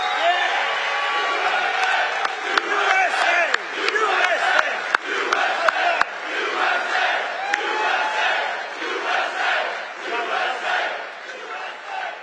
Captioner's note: audience chants "USA"